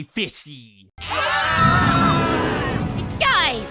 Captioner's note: Just Not screams